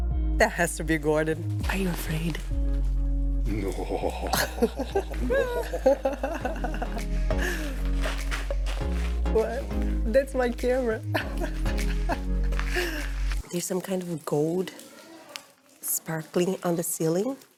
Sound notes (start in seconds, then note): 3.6 evil laughter; 10.9 laughs